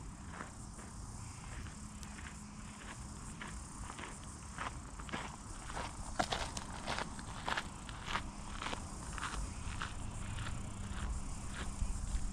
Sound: gravel crunching

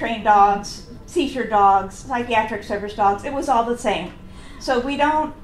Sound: "Wow!" whispered from audience

